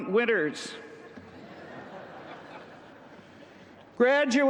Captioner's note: laughter